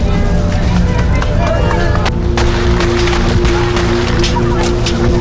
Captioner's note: shots fired